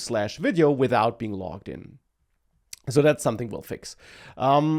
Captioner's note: smacks lips